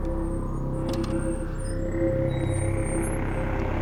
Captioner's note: none